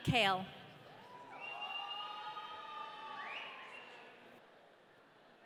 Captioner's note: audience cheering